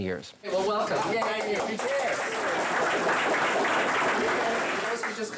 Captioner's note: group applauding